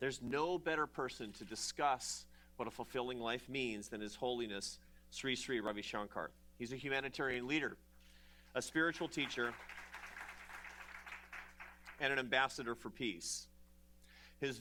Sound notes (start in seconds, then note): 8.6 applause